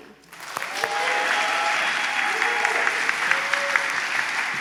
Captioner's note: applause, cheering